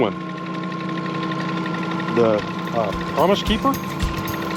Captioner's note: reel cranking